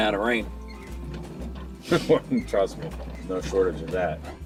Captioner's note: laughs